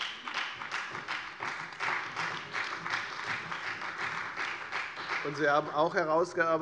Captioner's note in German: Beifall bei der FDP und der CDU